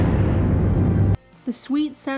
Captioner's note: gunshot